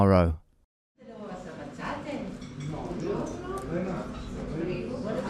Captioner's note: guests speaking Italian